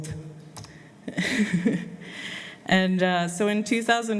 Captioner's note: laughs